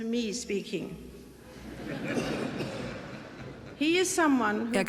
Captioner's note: audience laughing